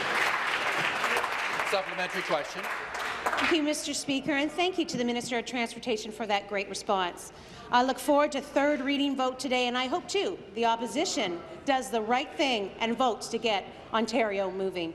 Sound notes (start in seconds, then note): 3.5 applause